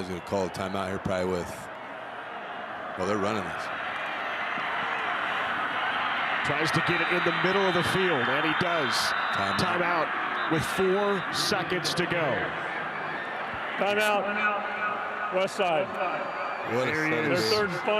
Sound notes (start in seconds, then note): 5.4 fans cheer; 6.6 referee blows whistle